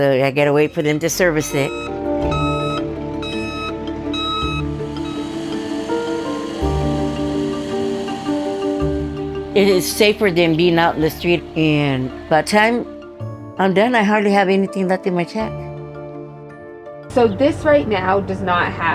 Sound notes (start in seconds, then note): 2.0 truck beeping; 5.5 pump whirring